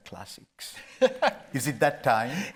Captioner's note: laughing